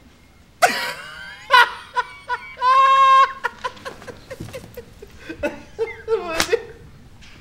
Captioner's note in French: Rire